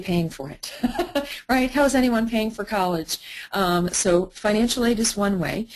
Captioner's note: laughter